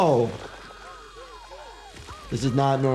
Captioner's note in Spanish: mujer grita